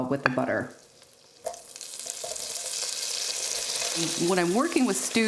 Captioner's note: bacon sizzling